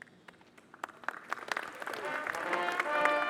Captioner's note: audience applauding; soft trumpet music